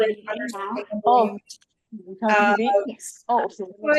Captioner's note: background chatter